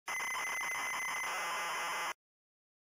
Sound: delightful sounds of bits

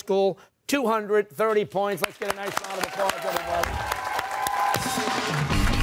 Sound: cheers and applause

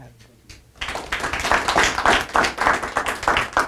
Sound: applause

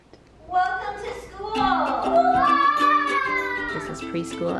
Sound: kids yell

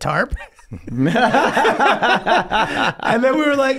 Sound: all laughing

